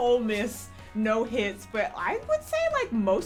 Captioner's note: none